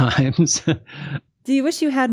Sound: laughs

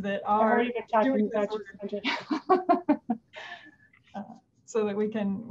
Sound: laughs

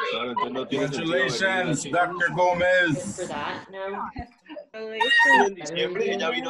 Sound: man speaks foreign language; woman shouting

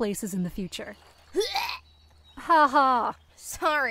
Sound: fake gagging noise

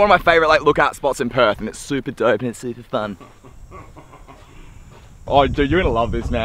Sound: laughs

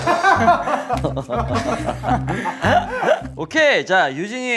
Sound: hehehe

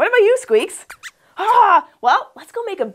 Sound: squeaks squeaks

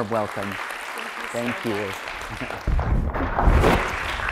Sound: applause

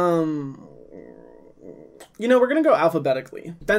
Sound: humming

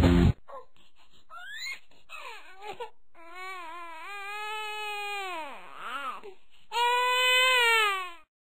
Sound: baby Cries

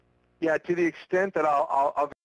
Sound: voiceover

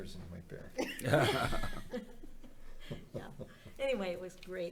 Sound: members laughing

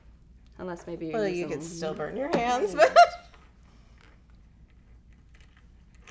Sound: laughing

